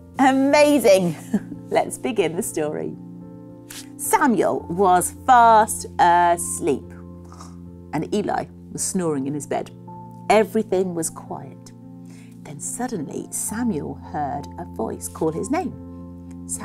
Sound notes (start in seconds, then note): 7.0 Joanna snores